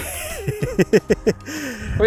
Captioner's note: laughter